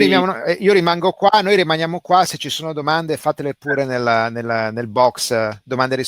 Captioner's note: speaking in foreign language